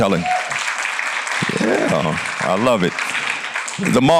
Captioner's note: applause